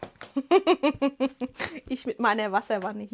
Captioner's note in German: Gelächter